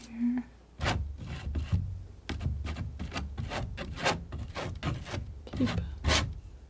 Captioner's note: scratching